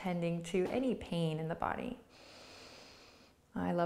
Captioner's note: inhales deeply